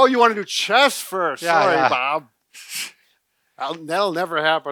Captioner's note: snickers